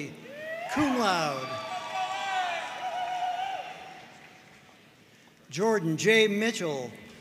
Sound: audience cheering and applauding

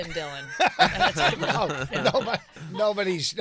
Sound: laughing

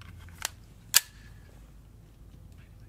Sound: gun cocks

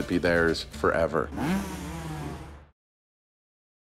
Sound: revving

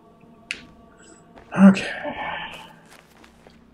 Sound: sighing

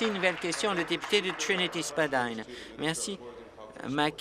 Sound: applause

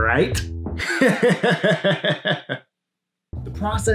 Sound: psychotic laughter

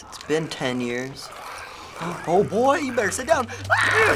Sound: gasps; Clickers croak; squeals

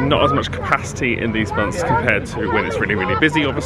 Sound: tyres screech

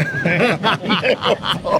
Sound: laughing

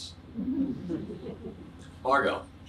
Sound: audience chuckles

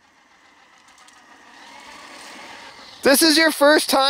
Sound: engine roaring

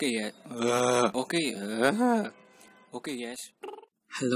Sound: groaning

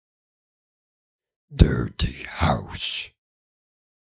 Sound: sound of deep bass voice

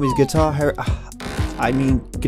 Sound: door creak sound

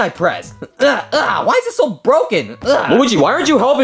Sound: Luigi grunting; grunting

